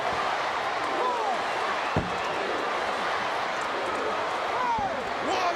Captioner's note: crowd chants "USA"